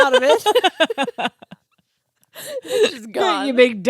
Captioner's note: laughing